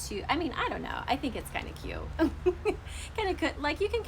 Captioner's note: laughs